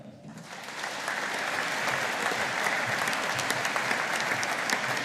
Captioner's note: audience applauding